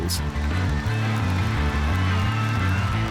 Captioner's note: cheering, screaming